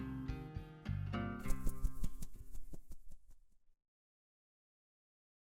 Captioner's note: wings flapping